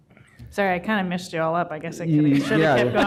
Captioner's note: laughter